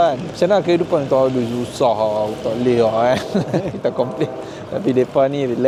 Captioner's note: laugh